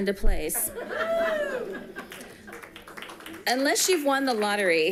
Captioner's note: people giggling